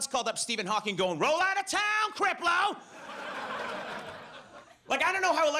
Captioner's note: audience laughs